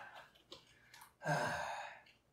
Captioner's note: sighs